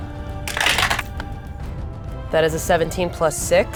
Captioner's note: dice rattling